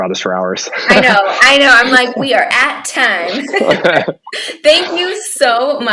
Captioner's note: laughing